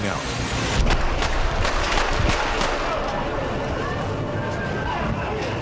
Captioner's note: gunshots firing